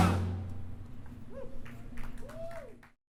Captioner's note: clapping